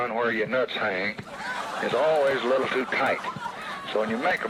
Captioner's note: audience laughs